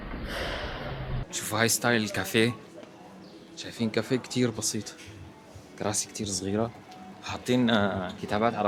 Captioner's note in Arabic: أصوات شخير